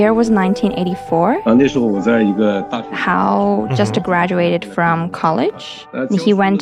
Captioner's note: speaking Mandarin Chinese